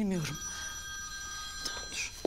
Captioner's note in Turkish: Telefon çalıyor